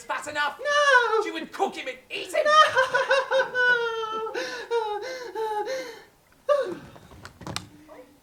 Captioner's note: scream; scream